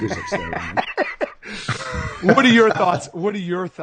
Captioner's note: laughing